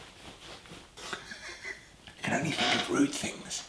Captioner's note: laughing